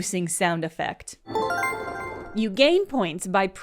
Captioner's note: a bright trilling chime